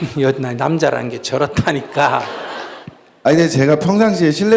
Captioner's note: audience Laughter